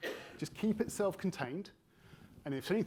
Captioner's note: attendee coughing